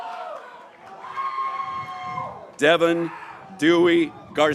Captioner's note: graduates cheering